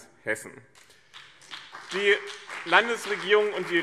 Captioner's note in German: Beifall BÜNDNIS 90/DIE GRÜNEN und CDU